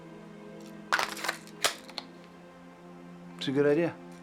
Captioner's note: gun clicking